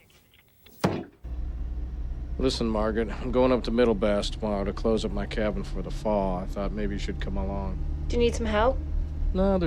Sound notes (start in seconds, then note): 1.4 car engine revving